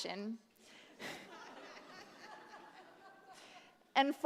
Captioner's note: laughter